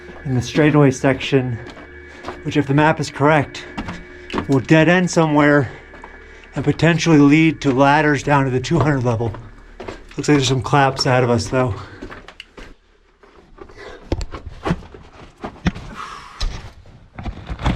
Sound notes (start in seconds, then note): 12.1 heavy breathing; 12.1 scuffling; 15.9 sighs